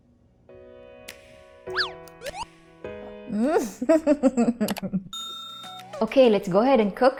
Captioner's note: chuckles; mouse clicks, bell rings